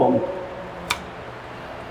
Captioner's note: shears snap